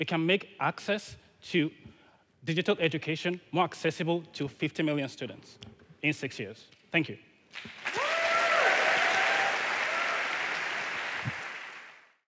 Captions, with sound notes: can make access to digital education more accessible to 50 million students in six years, thank you. [APPLAUSE]